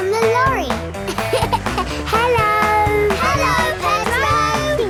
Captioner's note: laughing